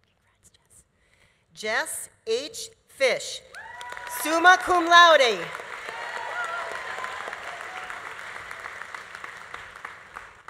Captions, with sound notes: Congrats, Jess. Jess H. Fish, summa cum laude. (audience applauding) (audience cheering)